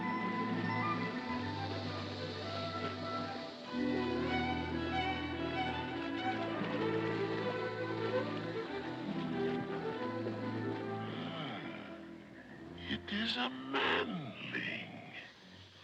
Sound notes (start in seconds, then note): 0.1 soft music; 6.4 water splashing